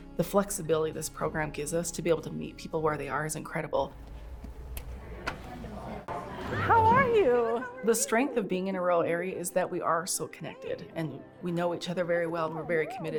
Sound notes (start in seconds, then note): 3.9 footsteps; 4.0 door opening